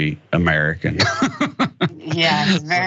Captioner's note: laugh